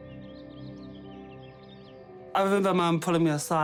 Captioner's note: birds twitter